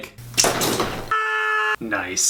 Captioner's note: screams